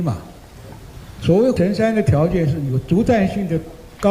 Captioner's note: drone